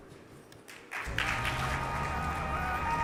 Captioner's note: audience applauding